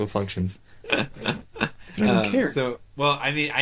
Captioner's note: laughing